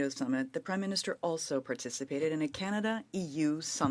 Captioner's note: speaking French